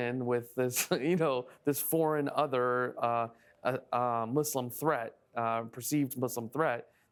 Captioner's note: laugh